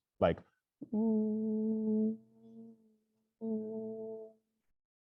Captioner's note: makes rising and falling vocal sounds